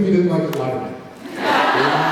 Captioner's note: laughs